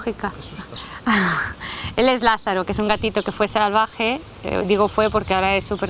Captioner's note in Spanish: se ríe